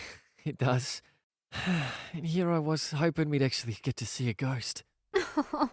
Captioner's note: sighs